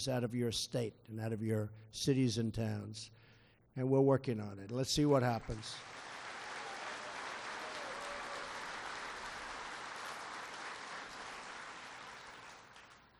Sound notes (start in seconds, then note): 5.4 applause